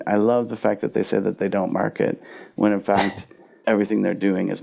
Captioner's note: laughs